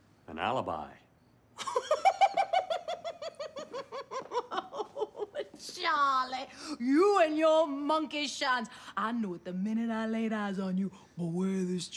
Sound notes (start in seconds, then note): 1.6 laughing